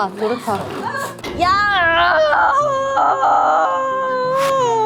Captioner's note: someone lets out a sound of despair